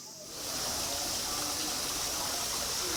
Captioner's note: waterfall babbles